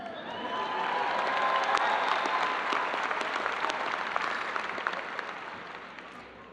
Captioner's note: audience applauding and cheering